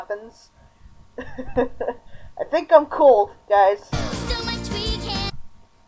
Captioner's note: laughter